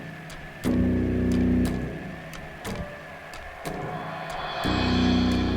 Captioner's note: whirring statics; ominous music